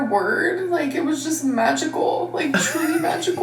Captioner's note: laughing